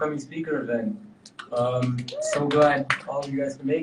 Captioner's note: audience cheering